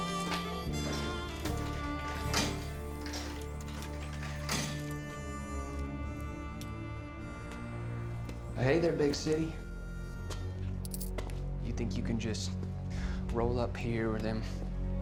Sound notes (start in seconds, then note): 2.4 sliding coins in machine